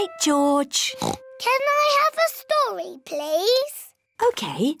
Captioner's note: oinks